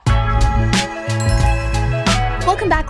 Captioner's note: upbeat music; logo dinging